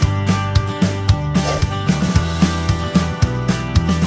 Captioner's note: swish